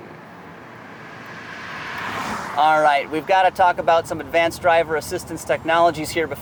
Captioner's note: car passing